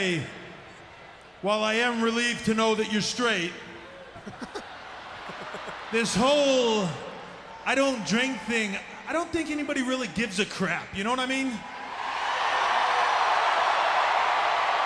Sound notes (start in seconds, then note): 3.8 laugh